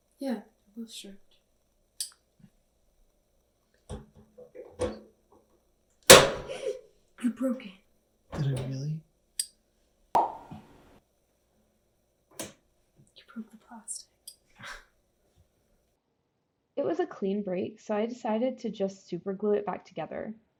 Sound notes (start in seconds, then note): 6.1 crack; 6.5 gasp!